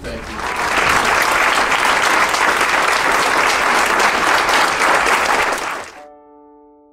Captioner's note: crowd applauding; inspirational music